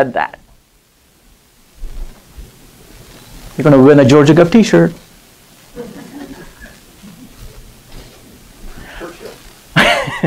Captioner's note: murmuring; laughing